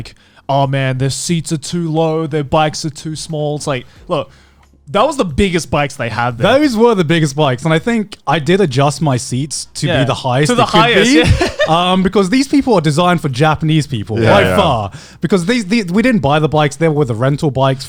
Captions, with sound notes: "oh man this seats are too low, the bikes are too small." It's like look, that was the biggest bikes they had there. - Those were the biggest bikes and I think I did adjust my seats to be the highest it could be. - To the highest. (laughing) - Because these people are designed for Japanese people - Yeah. - Yeah. - Because we didn't buy the bikes there were the rental bikes